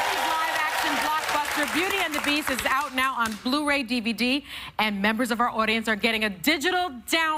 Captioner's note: cheers and applause